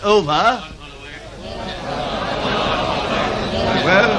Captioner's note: murmured protests